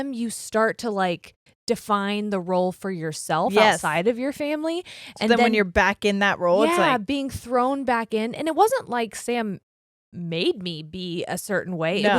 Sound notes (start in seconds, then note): none